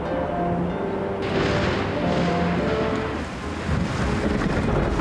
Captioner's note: thunder crashing